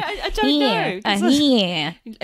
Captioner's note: makes nasal sounds